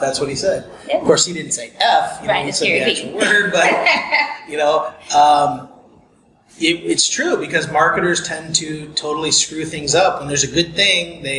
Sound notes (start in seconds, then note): 5.7 laughs